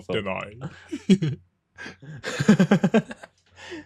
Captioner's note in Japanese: 笑い